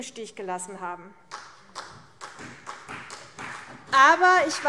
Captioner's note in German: Beifall CDU